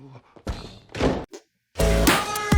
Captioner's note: hand fart